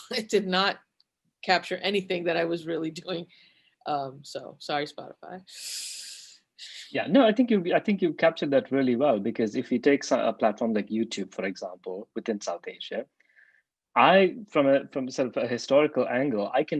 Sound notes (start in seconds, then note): 5.8 inhales sharply